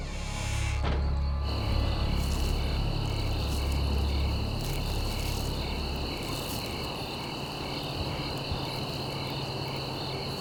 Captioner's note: crickets chirping